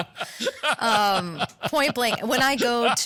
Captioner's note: laugh